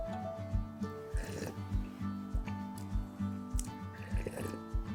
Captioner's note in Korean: 후루루룩